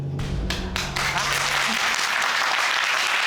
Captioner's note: audience applauding